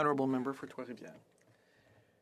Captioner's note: speaking FRENCH